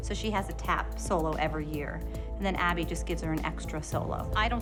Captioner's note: none